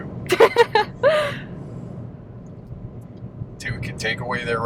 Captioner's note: laughing